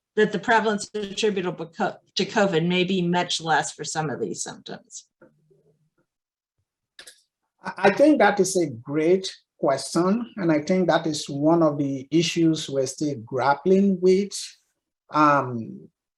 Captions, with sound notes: That the prevalence attributable to Covid maybe much less for some of these symptoms. [silence]. I think that is a great question and I think that is one of the issues we're still grappling with.